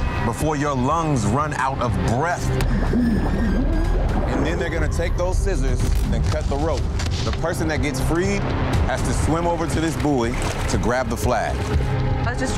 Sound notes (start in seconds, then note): 2.9 dramatic music; 2.9 water splashing